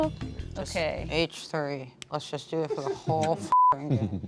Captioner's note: beep